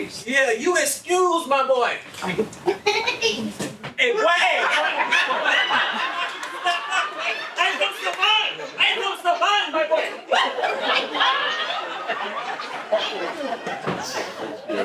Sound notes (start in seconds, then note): 2.8 laughing; 6.2 laughing; 11.5 laughing